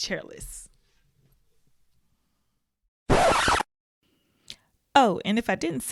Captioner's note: record scratch